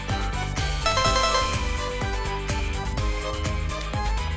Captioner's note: buzzer sounds repeatedly!